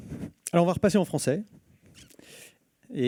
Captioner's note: speaking french